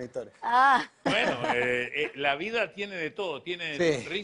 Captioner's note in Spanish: Ella ríe